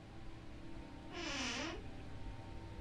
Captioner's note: speaks in a foreign language